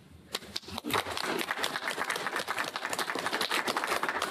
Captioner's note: applause